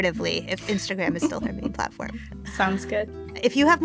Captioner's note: laughter